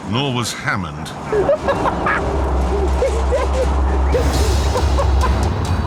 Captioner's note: richard laughs